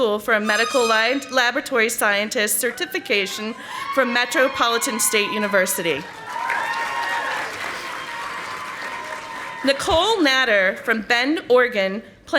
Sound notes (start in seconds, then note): 6.3 audience applauding